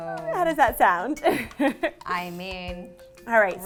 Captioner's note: chuckles loudly